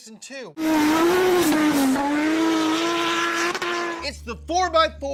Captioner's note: engine whirring